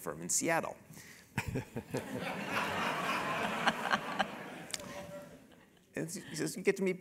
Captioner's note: laugh